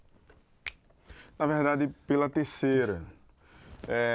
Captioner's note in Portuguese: estalando os dedos